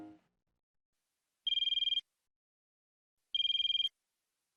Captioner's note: phone ringing